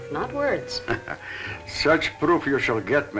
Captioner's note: chuckling